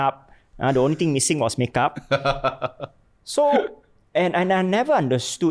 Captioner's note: laughs